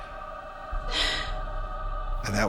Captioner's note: sobs